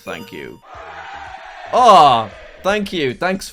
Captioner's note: cheers